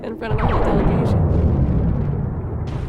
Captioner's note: blasters firing